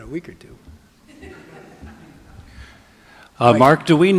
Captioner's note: audience laughing